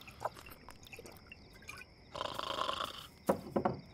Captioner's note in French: ronflement